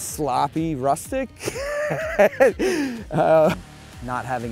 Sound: laughing

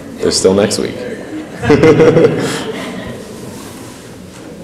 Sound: laughs; laughs

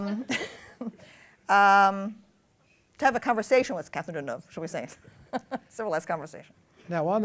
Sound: laughter; laughs

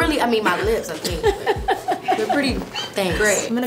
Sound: laughs

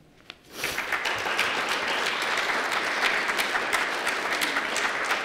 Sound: applause

